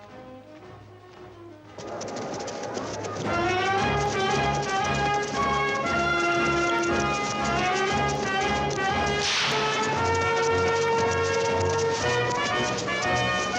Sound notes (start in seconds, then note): 0.3 lively orchestral music; 9.1 whip cracks